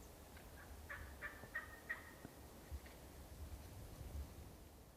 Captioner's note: turkey gobbling